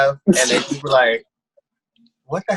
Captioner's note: laughs